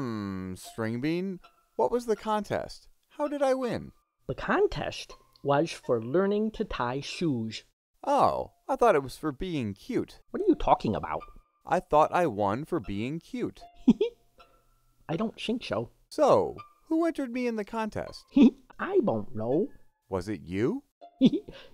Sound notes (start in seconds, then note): 13.8 Stringbean laughs; 18.3 Stringbean laughs